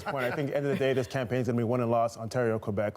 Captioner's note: laughter